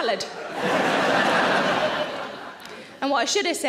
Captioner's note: audience laughs